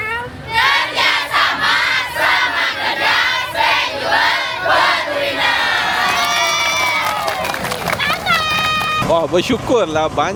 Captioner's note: cheer